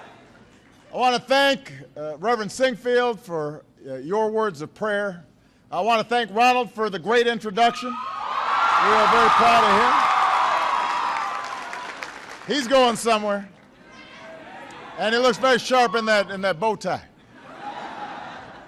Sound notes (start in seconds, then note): 11.3 applause; 17.2 laughter